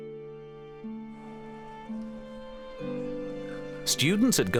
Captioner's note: speaking German